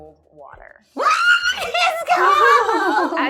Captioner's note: screaming